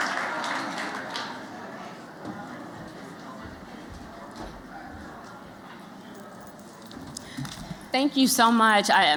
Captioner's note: applause